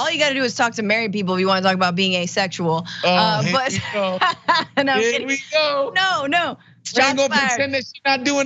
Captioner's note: laugh